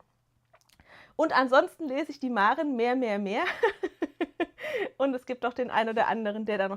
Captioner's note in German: gelächter